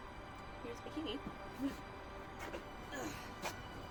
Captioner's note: grunts